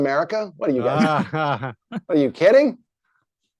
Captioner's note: chuckling